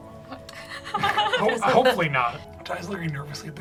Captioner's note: laughs